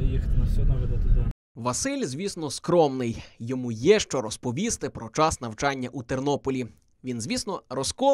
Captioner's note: voiceover